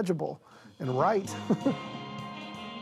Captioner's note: chuckles